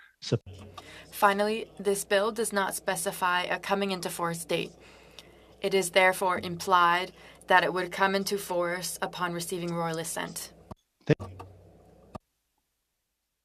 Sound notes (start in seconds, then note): 7.3 speaking french